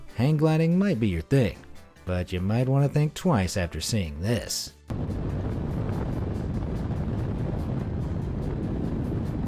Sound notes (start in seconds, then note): 4.9 wind whipping